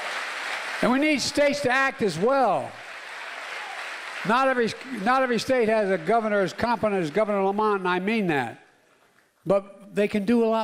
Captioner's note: applause